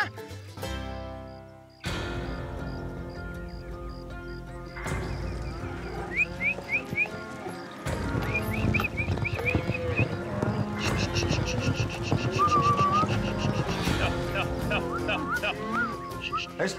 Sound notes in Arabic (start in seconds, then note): 7.0 صافرة